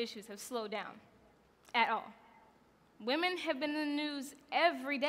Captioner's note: none